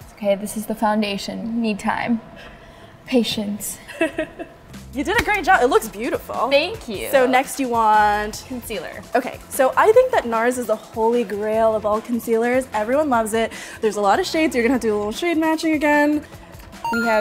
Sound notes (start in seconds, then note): 3.8 laughs